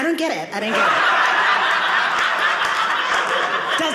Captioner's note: audience laughing